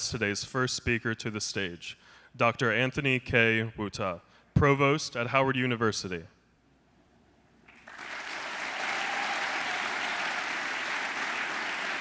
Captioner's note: applause